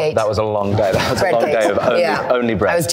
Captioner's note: laughs